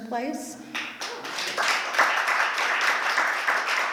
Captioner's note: applause